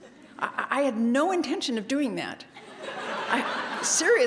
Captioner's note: laugh